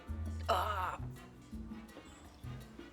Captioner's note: background chatter